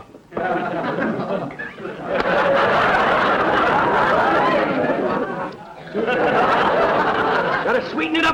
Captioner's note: audience laughter